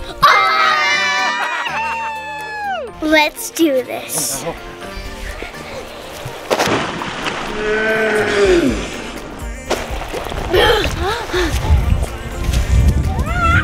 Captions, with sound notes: (yelling) - Let's do this. (water splashing) (yelling)